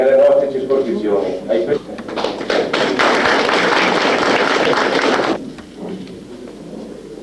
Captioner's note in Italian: Applauso